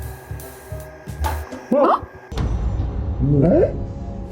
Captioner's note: tense music; both gasp